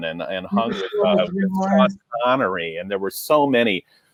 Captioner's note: mumbles